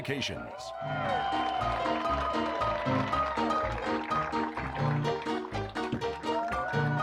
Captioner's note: crowd cheering; upbeat piano music continues